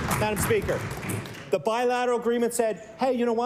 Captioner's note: cheering & Applause